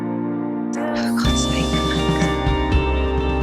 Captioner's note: voiceover